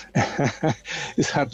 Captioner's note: laughs